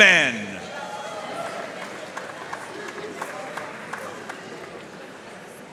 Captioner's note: audience cheering and applauding